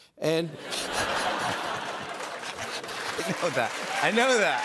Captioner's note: laughter